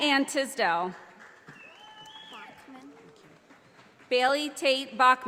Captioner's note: audience applauding